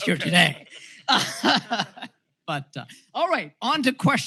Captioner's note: laughter